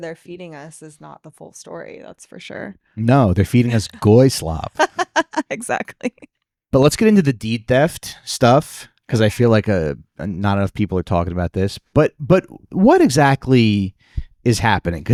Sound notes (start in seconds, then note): 3.6 laughing